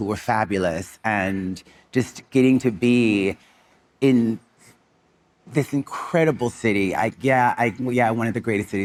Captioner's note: none